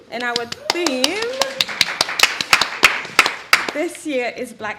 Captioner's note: audience applauding